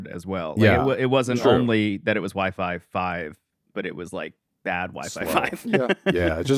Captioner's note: laughs